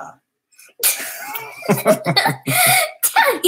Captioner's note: laughter